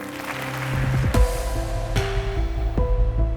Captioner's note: applause; bright music